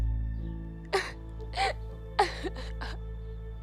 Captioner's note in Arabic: بكاء